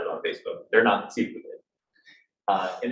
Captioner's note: speaking faintly